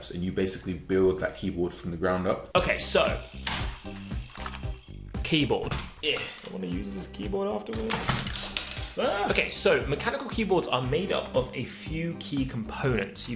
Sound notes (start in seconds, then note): 9.0 yelping